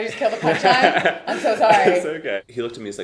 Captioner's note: laughing